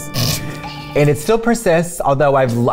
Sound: snickers

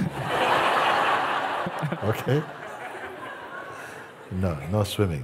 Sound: laughter

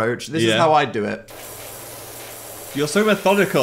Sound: liquid hissing

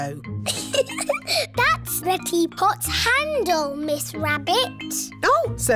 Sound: giggles

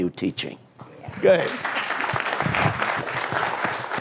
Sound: applause

